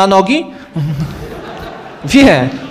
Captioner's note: laugh